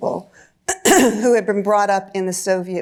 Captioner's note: clears throat